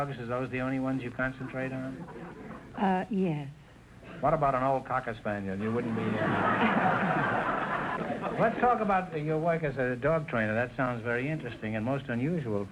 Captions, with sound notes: Are those the only ones you concentrate on? - Uh...yes. - What about an old cocker spaniel? You wouldn't be... (audience laughter) Let's talk about your work as a dog trainer. That sounds very interesting and most unusual